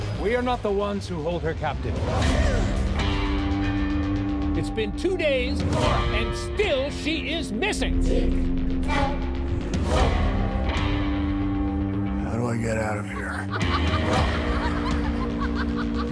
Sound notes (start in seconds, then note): 2.3 tense dark music; 8.0 crowd chanting tic-toc; 10.0 tense dark music; 13.1 manic laughter